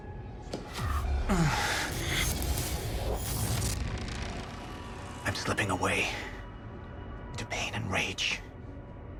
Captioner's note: sounds of pain